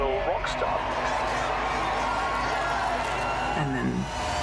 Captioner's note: people cheering